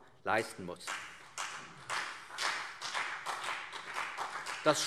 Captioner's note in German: Beifall CDU und vereinzelt BÜNDNIS 90/DIE GRÜNEN